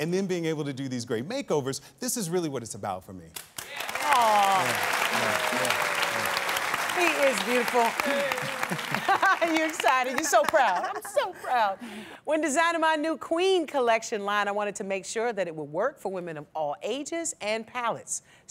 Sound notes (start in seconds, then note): 3.4 applause